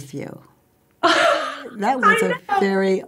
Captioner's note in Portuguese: risos